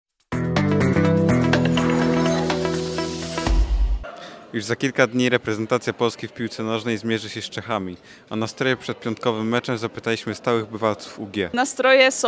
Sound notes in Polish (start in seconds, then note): 0.1 Aplauz